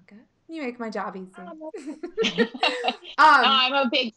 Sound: laughing

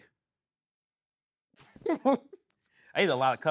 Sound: laughing

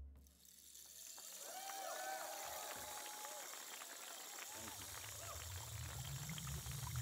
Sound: water trickling; audience cheering

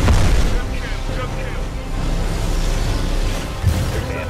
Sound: radio

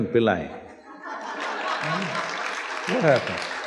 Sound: laughter/Applause/Cheers

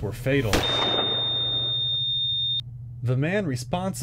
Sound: machine beeps

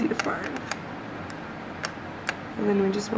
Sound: scissor-clipping sounds

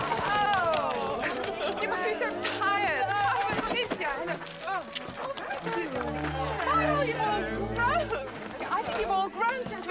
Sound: people chattering

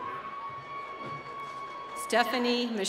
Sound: applause

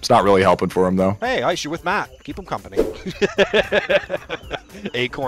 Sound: laughter

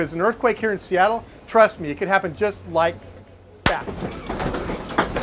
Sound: single clap

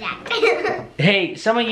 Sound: laughs

